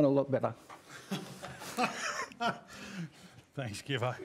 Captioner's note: laughing